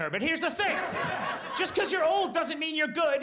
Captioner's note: audience laughs